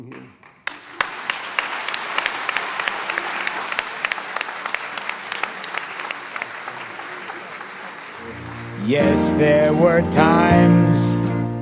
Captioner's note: applause